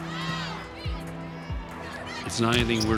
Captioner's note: crowd chanting